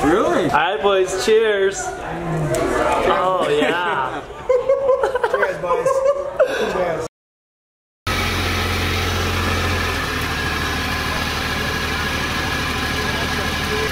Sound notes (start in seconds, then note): 4.2 laughing; 8.0 engine noise